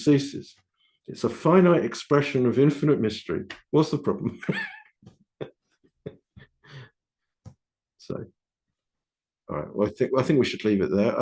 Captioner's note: laughing